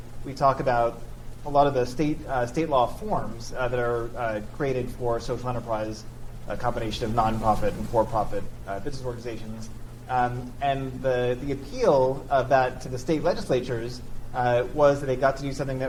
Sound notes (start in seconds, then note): none